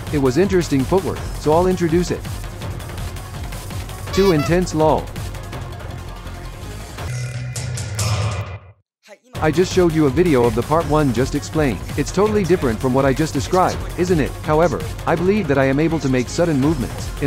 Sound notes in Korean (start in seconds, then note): 4.2 웃음